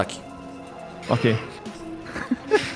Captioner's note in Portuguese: riso